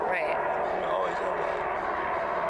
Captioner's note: airplane flies low overhead